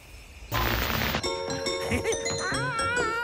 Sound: tv starts playing

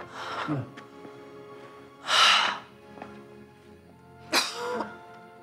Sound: dramatic music; Anna sighs; Philip grunts; Debbie coughs

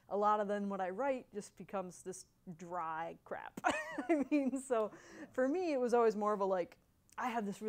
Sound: laughs

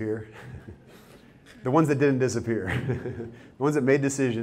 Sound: chuckles

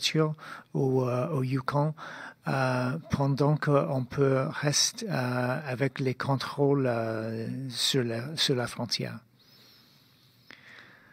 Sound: speaking in French

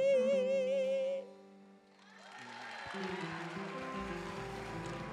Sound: applause

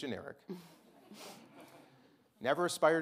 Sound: audience chuckling

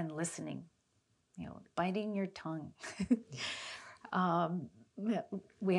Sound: chuckles

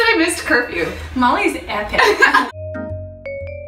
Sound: laughing; moody organ and percussion music

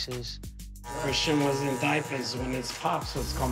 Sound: machine buzzing

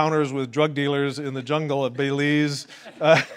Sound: laughs

